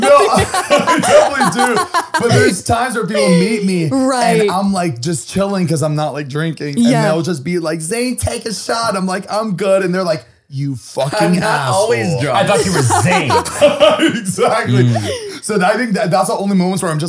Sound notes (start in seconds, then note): 0.0 all laughing; 14.0 laughs